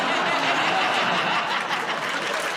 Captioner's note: laughter